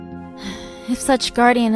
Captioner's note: sighs